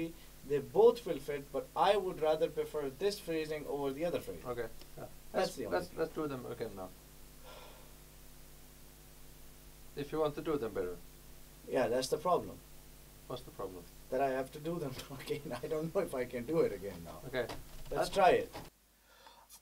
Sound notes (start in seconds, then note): 7.4 sigh